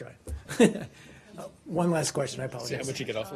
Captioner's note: laughter